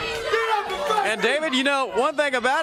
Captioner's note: crowd chatter